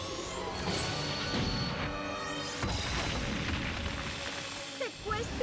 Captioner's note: explosion and clattering